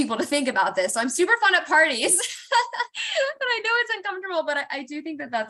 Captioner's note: laughter